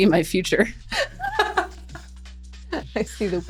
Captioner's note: laughing